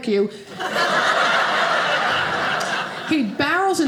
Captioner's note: audience laughing